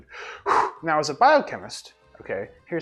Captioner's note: sighs